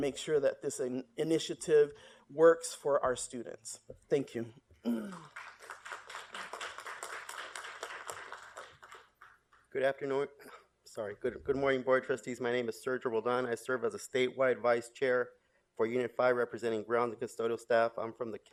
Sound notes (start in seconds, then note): 5.0 applause